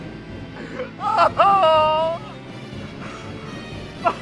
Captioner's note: crying